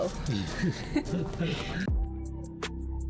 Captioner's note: laughter